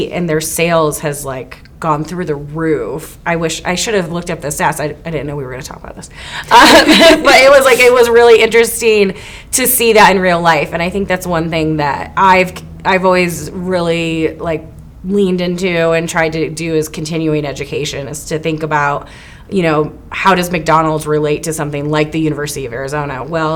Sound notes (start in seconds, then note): 6.5 both laughing